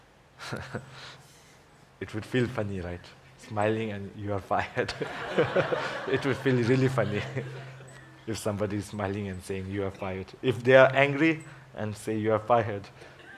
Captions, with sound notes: it would feel funny, right? Smiling and you are fired. (laughter) It would feel really funny, if somebody smiling and saying, you are fired. If they are angry and say, you are fired,